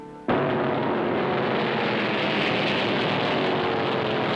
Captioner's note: engines rumbling